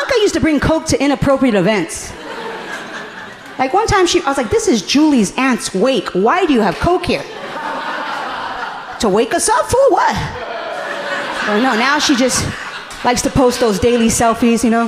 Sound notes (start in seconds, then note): 2.1 audience laughing amusingly